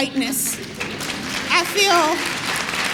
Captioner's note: applause